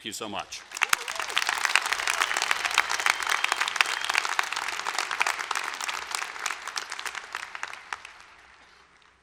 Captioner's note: applause